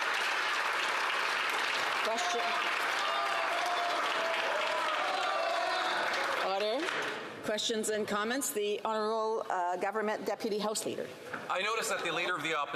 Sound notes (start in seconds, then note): 6.3 applause